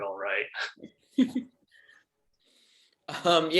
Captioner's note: chuckles